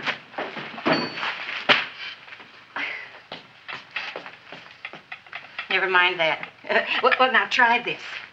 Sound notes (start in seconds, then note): 2.8 Audrey chuckles; 4.6 cup clattering; 6.7 chuckles